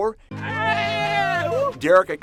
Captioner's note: and people cheering